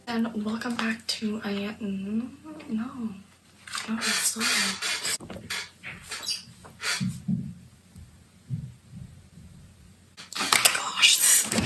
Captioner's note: chair squeaks